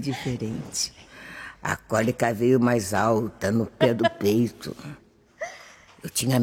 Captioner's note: whispers